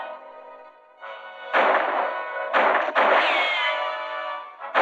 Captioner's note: gunshots